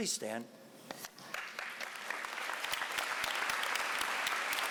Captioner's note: applause